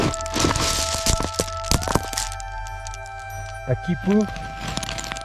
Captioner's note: ice crackles; stone drags